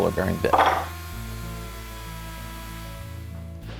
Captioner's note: router humming; mellow music